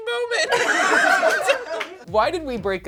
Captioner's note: all laugh